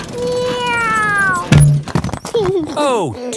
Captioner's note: george imitates airplane; george giggles